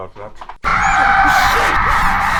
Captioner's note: John screams